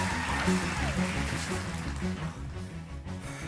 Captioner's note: cheers and applause stops; cheers and applause